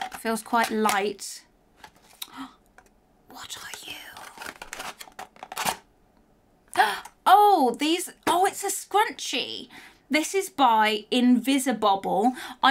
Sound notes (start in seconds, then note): 2.2 gasps